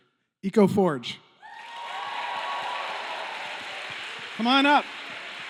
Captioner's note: cheering